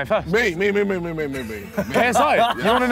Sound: laughing

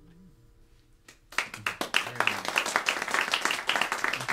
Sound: applause

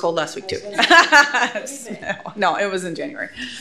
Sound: laughs

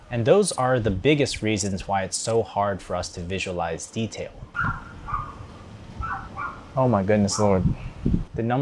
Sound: barking

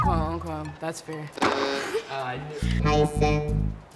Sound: button buzzing

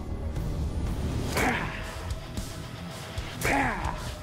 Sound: shouting

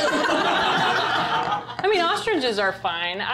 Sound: laughter

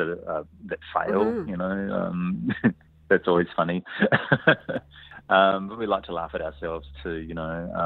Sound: laughs

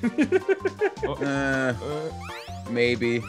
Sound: laugh

